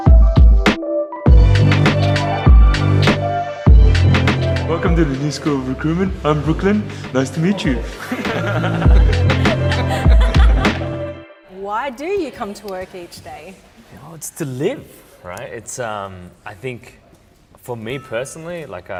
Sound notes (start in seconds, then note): 7.9 laughter